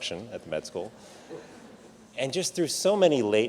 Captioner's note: audience laughs